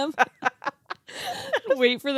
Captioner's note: girls chuckling